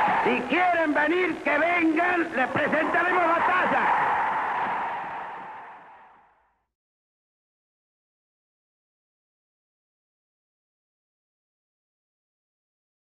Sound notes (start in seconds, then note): 4.4 cheering